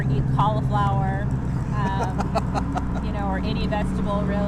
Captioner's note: laughing